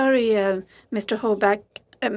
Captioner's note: speaking FRENCH